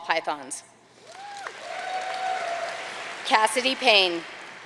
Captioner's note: audience cheering and applauding